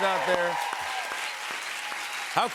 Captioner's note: cheers and applause